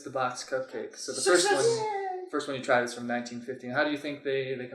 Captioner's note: cheers